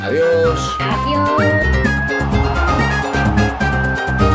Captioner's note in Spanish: Aplausos